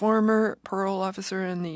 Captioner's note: speaking French